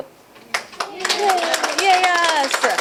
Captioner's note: applause